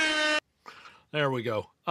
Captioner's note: horn blaring